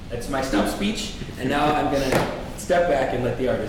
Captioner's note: none